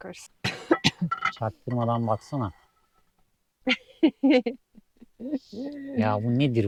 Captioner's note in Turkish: kahkaha